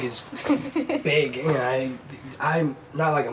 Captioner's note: stammers